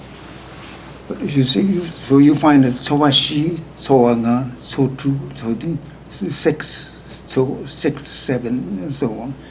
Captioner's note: speaking tibetan